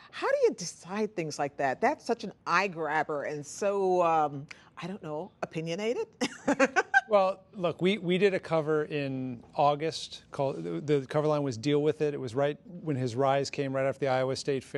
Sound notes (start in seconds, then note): 6.3 laughing